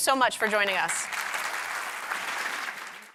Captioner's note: audience applauding